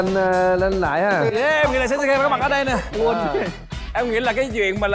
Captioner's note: laughs with his tears!!!